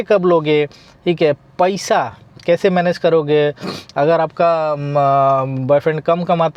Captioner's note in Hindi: नाक से की जाने वाली आवाज़